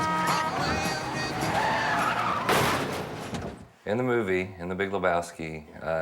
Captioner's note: car horn honking